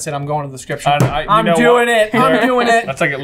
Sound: slam

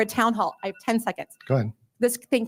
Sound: timer rings

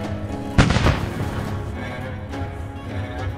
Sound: upbeat music; gun firing; upbeat music

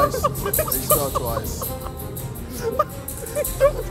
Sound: laughter

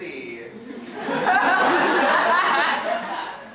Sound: audience laughter

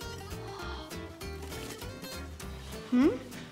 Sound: boy gasps

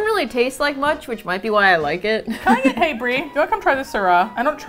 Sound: laughs

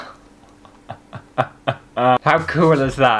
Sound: evil Laugh

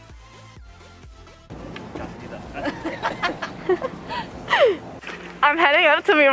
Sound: wind; laughs

